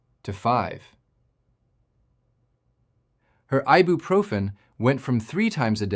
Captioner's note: pause